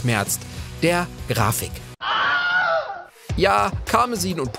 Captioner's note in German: Schrei